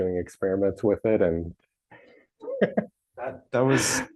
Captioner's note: laughs